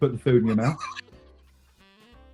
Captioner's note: giggling